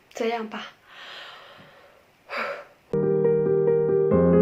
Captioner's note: breathing